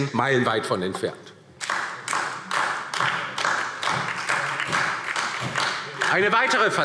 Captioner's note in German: Beifall DIE LINKE und vereinzelt SPD